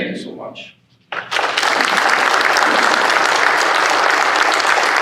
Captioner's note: applause